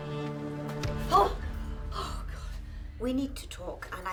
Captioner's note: gasps